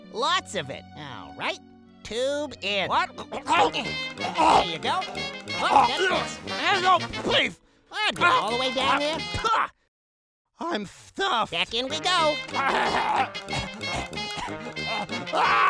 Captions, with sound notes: Lots of it! Alright. Tube in. What? [Gagging and choking sounds] There you go. That's it. No, please. Get it all the way down there. I'm stuffed. Back in we go!